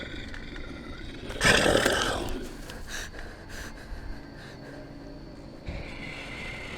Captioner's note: werewolf growls; Sarah breathing heavily